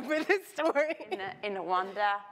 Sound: laughs

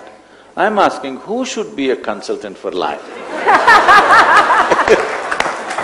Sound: laughter

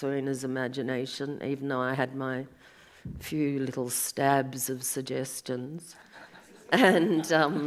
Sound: audience laughs

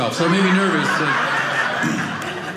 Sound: audience laughing

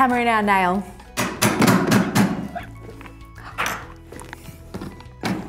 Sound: hammer banging

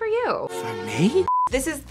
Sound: beep

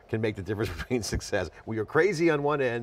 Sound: chuckles

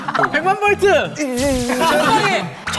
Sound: electricity

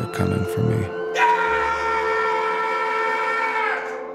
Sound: screaming

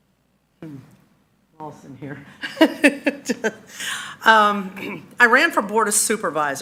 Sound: laughs

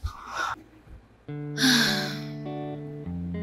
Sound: sighs

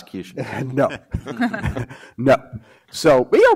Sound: panelists chuckle

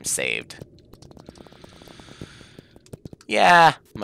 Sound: breathing

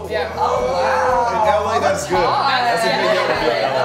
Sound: people chatter

